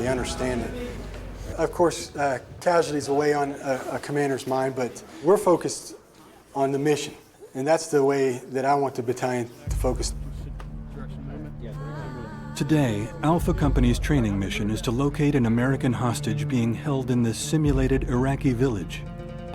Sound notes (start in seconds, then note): 12.8 voiceover